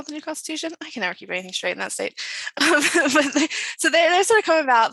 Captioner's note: chuckles